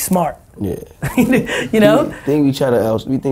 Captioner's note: laughing